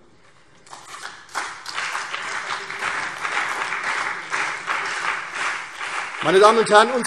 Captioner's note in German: Beifall CDU und BÜNDNIS 90/DIE GRÜNEN